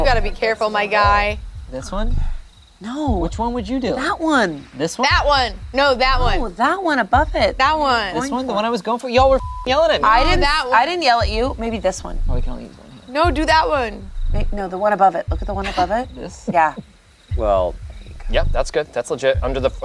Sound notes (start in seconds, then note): 9.2 beep